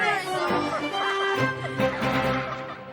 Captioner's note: laughter